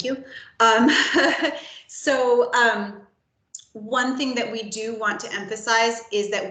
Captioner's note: laughs